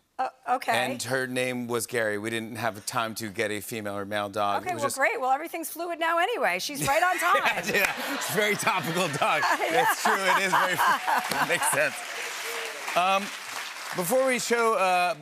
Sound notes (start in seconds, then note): 6.8 laughter